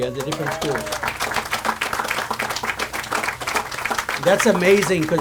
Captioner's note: audience applauds